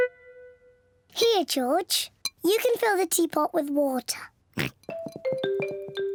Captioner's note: oinks